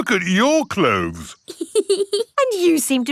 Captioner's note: laughs